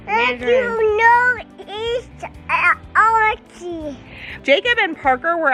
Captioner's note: babbling